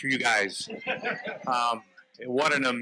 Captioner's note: audience member laughs